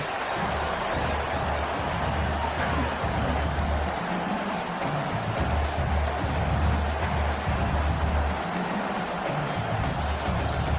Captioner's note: crowd Noises